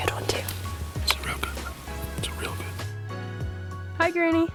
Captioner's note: whispering